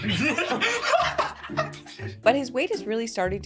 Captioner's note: all laugh